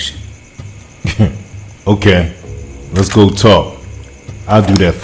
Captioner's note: scoffs